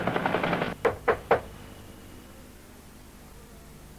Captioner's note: knocking